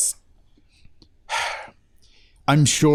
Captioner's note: sighs